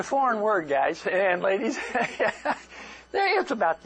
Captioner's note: laughter